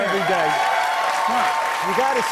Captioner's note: cheers and applause